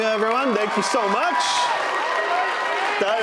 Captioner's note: audience applauding; audience cheering